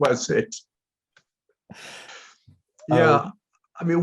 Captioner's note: laughter